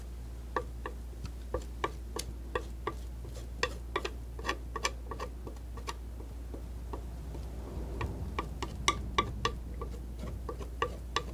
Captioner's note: scratching